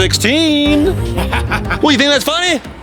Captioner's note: manic laughing